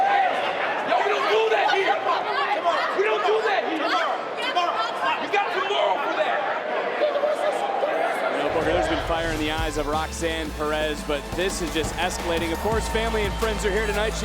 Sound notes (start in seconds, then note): 4.1 Roxanne yelling; 4.1 people chattering; 6.5 people chattering